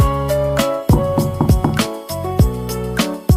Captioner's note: knock knock